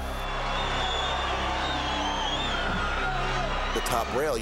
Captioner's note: applause